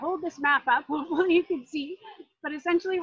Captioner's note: laughs